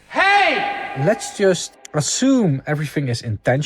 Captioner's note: ringing